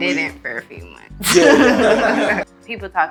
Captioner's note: laughs loudly